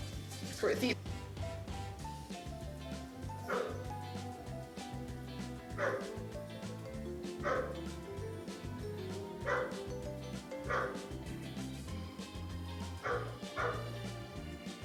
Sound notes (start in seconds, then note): 2.9 dog barking in the distance